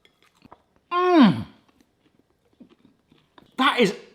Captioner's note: munching